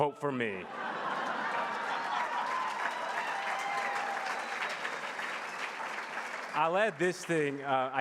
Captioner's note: laughs and Applause